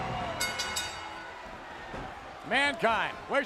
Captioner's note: bell ringing